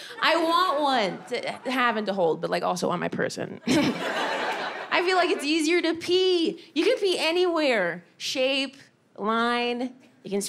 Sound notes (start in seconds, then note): 3.3 laughs; 3.7 audience laughing